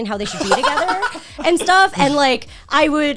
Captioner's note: guys laughing